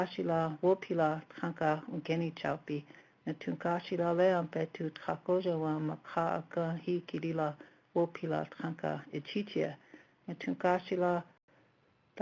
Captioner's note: native language spoken